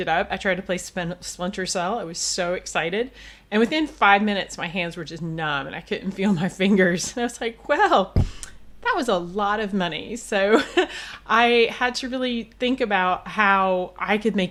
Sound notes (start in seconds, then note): 10.4 laughs